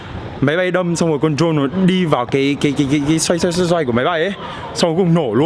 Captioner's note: plane engines